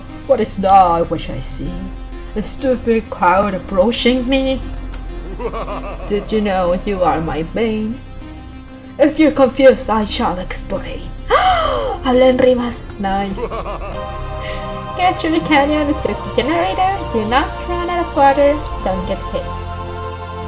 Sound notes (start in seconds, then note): 5.2 evil laugh; 11.3 gasps